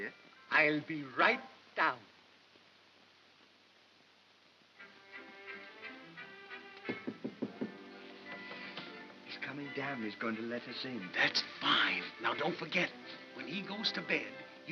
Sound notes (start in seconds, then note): 4.8 soft whimsical music; 6.9 knocks softly on box